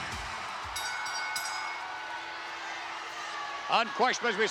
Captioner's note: bell rings